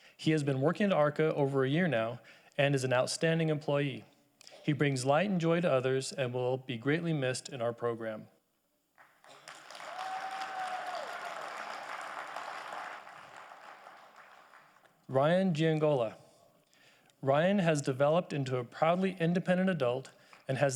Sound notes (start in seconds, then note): 9.0 audience applauding